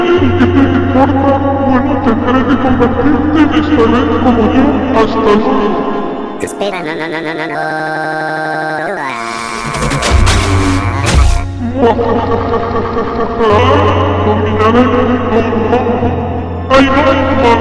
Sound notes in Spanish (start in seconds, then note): 8.9 Gritos Y Transformacion; 11.6 Risa Maniaca